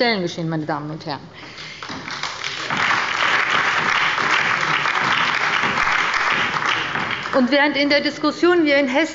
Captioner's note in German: Beifall bei Abgeordneten der SPD und der LINKEN